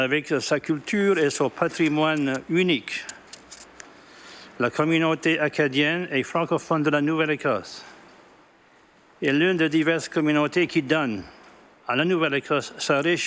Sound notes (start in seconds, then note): 9.8 speaking French